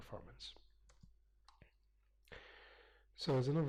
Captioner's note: pause